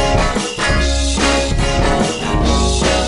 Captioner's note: none